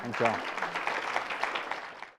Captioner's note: applause